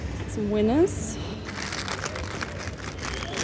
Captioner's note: crisp packet rustling